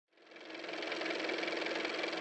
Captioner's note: car motor